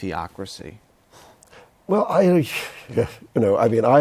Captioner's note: laughs